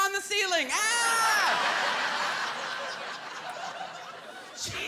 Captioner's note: laughter